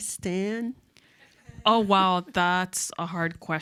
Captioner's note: audience chuckles